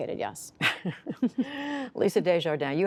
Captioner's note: laughter